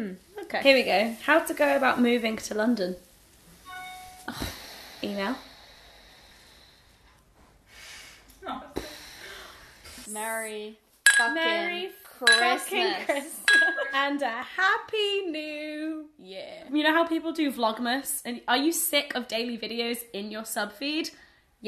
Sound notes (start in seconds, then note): 3.6 ping